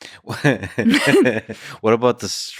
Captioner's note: both laughing